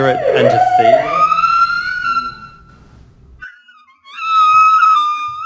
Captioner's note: whale vocalising